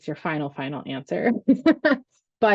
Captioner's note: laughs